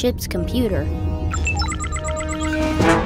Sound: beeping

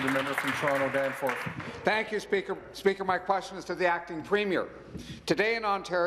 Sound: applause

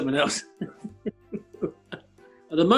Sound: chuckling

